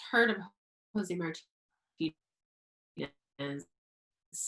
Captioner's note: audio cuts out